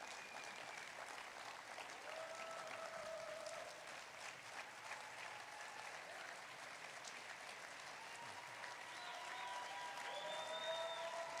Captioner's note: applause